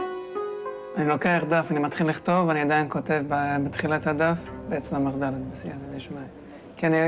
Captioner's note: young man speaking in foreign language